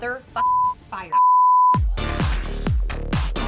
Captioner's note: beep; upbeat music